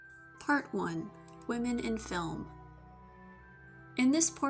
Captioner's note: normal voice-over